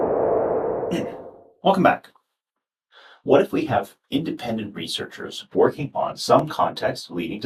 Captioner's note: whoosh sound